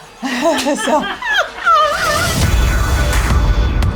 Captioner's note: laughing; dramatic music